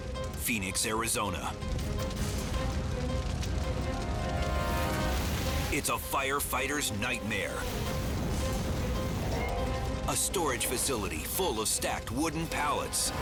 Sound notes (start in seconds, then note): 1.7 dramatic music; 1.7 fire roaring